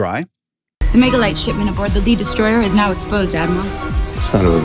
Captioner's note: movie dialogue plays